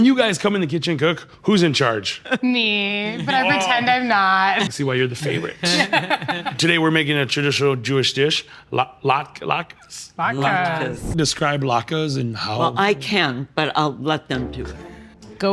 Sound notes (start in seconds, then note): 5.2 laughing